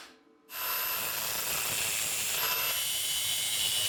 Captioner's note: saw buzzing